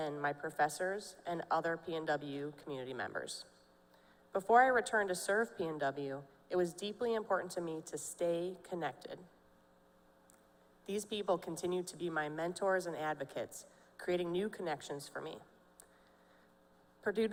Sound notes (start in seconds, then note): none